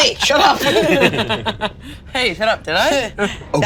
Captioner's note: all giggling